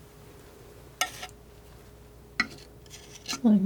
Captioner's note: scratching